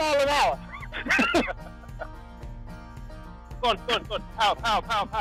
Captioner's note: both laughing